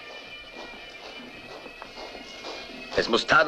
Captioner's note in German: boots marching